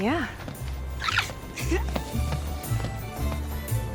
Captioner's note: peyton giggling